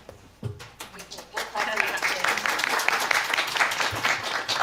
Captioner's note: applause